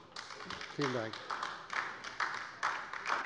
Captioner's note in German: Beifall bei der LINKEN